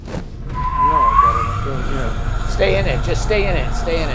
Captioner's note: car revs